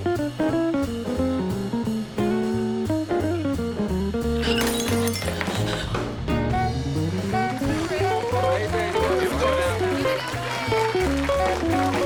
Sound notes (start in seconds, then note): 4.4 glass shatters; 6.6 crowd applauding; 6.9 crowd cheering